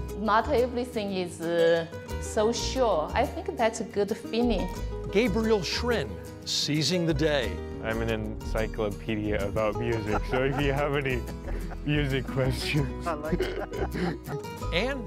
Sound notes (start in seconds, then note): 12.6 laughs